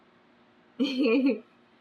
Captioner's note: laughs